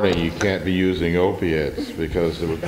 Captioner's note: laughter